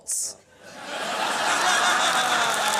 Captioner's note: laughter and applause